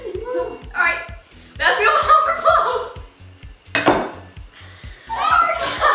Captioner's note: laughter